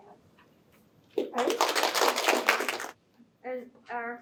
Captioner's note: applause